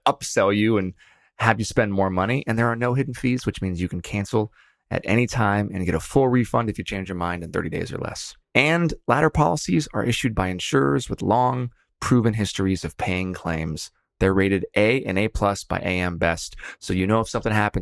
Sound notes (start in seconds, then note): none